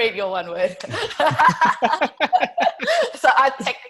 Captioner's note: laughing